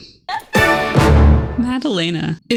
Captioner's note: Madalena giggles